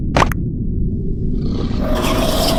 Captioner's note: male Leech moth Grunts to call her back